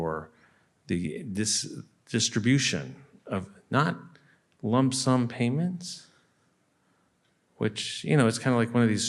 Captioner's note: none